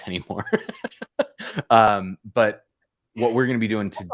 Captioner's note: laughter